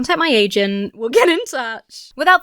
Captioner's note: laughs